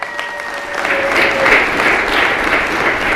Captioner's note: applause